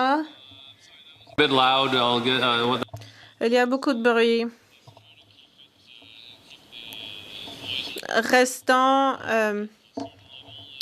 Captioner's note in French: voix de l'interprète